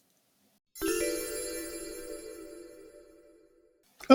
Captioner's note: chimes